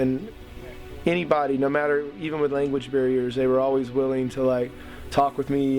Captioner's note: none